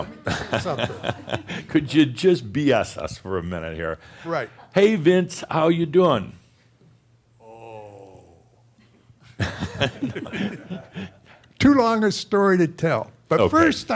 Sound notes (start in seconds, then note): 0.1 chuckles; 8.7 they chuckle